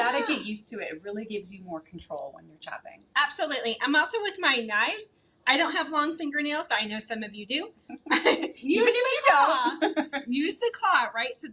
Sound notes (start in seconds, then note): 7.9 both laughing